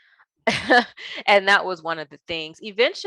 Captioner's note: chuckles